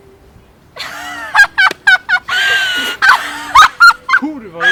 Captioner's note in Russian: смех